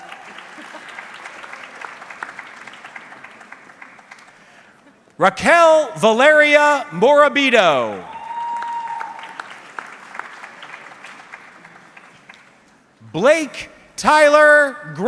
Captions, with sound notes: (audience clapping) Raquel Valeria Morabito. (audience clapping) Blake Tyler Grove.